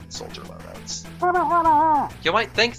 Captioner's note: Pyro TF2 noises